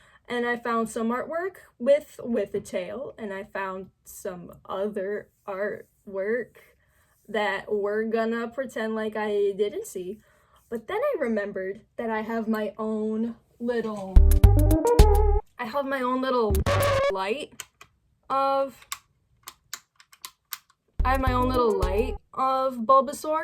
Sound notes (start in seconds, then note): 19.4 off/on button clicking